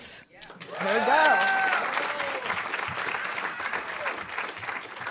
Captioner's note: audience applauding